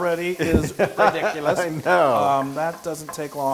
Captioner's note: laugh